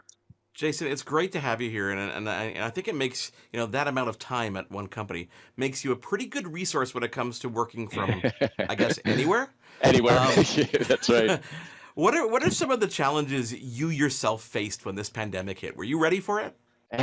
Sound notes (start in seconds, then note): 7.9 laughing